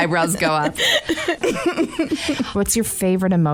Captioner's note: laughter